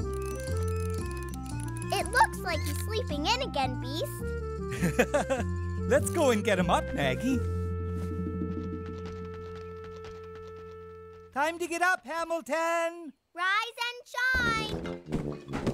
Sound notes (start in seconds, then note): 9.0 clattering